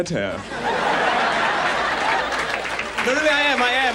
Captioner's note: audience laughs